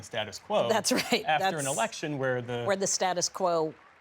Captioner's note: laughter